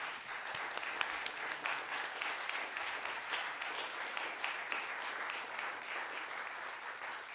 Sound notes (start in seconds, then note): 3.7 applause